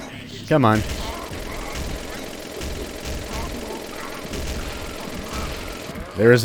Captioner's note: moar motorized mayhem